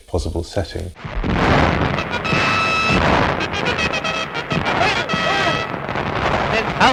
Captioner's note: explosion booming; lively music